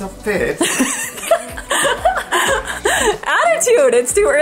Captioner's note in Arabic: يضحك